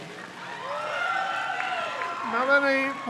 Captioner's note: crowd cheers